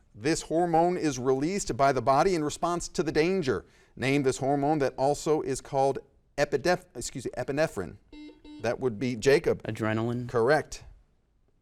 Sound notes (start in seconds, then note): 8.1 buzzer dings